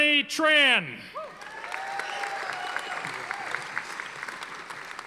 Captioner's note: audience applauding